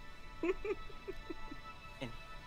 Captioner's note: chuckles